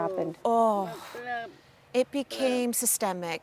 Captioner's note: sighs